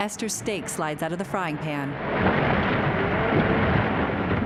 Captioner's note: engine revving